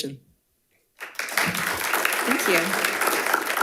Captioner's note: audience applauding